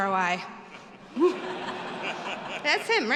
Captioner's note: all laughing